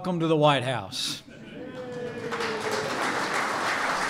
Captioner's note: applause